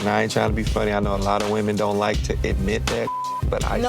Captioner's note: beep